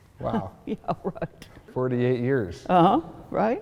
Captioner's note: laughing